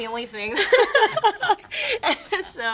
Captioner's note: girls laughing